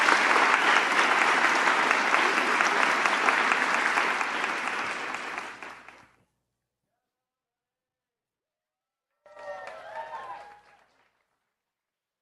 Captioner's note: applause